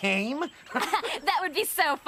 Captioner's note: Owen and Izzy Laughs